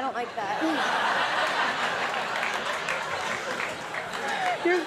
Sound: audience laughing

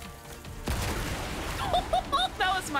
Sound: shot, Explosion

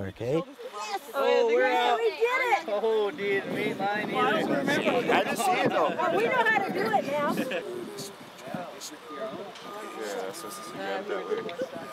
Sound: talking and laughing

